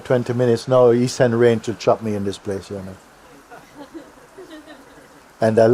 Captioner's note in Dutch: gelach